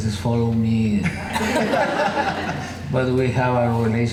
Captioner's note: laughing